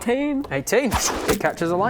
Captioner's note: fwoosh